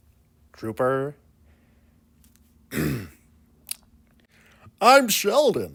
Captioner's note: clears throat, then smacks lips